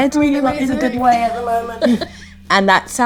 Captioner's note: Nicola laughs